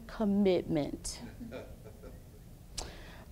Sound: laughs

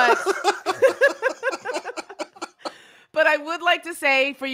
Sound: laugh

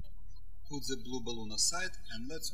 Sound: birds chirping

